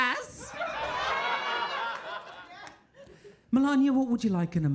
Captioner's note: audience laughing